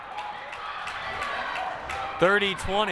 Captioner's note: crowd cheering and applauding